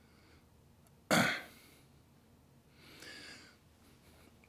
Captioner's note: coughs